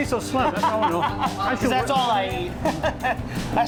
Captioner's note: laughs